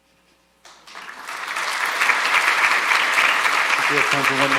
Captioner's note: audience applauding